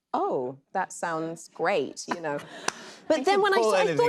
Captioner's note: laughter